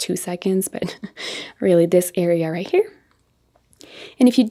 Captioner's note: chuckles